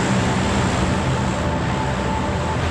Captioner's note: plane passing